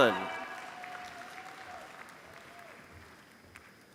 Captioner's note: applause